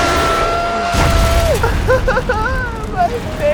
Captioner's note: kaboom!; sobs; mournfully